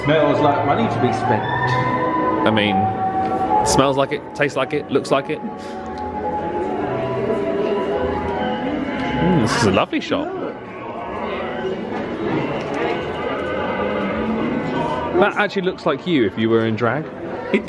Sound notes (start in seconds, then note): 7.1 cheery music; 7.1 people chattering